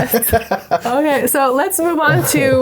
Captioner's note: laughing